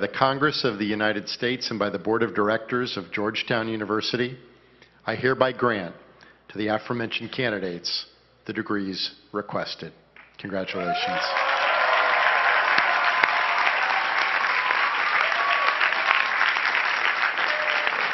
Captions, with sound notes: by the Congress of the United States and by the board of directors of Georgetown University I hereby grant to the aforementioned candidates the degrees requested. Congratulations. (cheering and clapping)